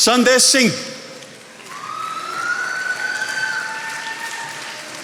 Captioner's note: attendees applauding